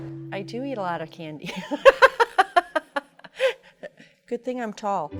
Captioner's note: laughing